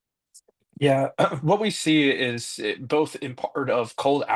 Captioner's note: clears throat